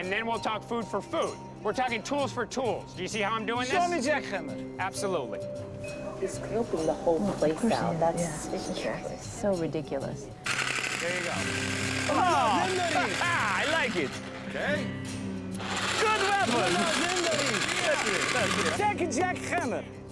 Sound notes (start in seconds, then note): 12.1 laughs; 16.8 speaking foreign language